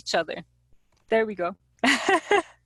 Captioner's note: laughing